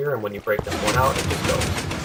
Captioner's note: pistons firing